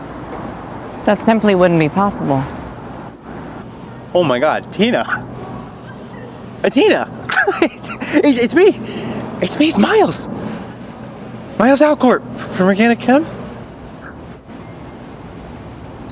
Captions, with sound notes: - That simply wouldn't be possible. - Oh, my God, Tina. (chuckles) Tina! (chuckles) It's me! It's me. It's Miles! Miles Alcort from Regina Chem?